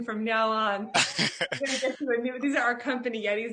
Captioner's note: laughing